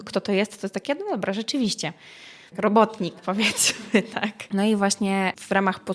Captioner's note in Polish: śmiech